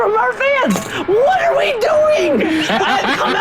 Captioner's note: all laughing